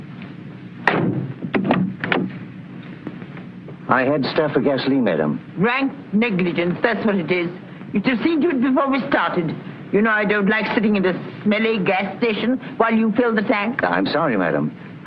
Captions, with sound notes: [CAR DOOR OPENING] I had to stop for gasoline madame. Rank negligence, that's what it is. You deceived me before we started. You know I don't like sitting in this smelly gas station while you fill the tank. I'm sorry, madam.